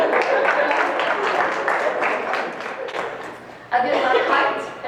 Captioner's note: crowd claps